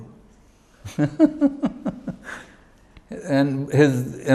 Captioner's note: chuckles